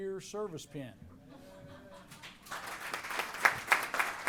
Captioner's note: cheers, applause